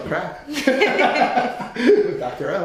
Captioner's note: laughing